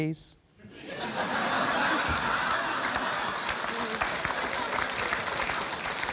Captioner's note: laughter, applause